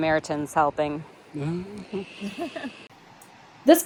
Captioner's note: laughs